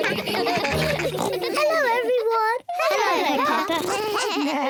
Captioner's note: all giggle; oinks; all make animal sounds